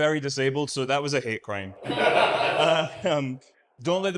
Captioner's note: audience laughs